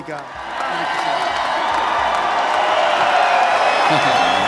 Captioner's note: cheering